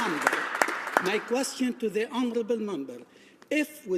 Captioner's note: some Applause